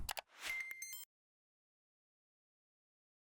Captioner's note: beeping